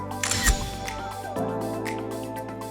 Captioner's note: upbeat music; camera clicks; upbeat music